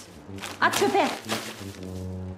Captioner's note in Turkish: Poşet sesi